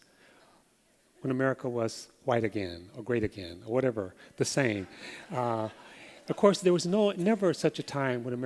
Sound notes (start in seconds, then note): 4.8 laughter